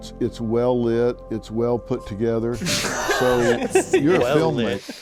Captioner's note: all laughing